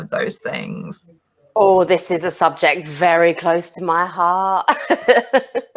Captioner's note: laughs